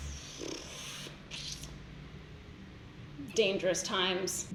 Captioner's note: sighs; blows a raspberry; sucks teeth